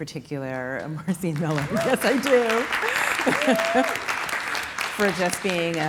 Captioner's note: audience clapping